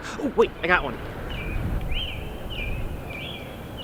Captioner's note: nature Sounds; birds Chirping